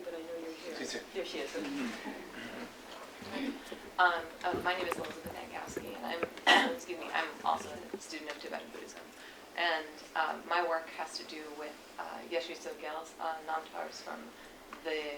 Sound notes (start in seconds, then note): 4.4 cough; 12.4 non-english speech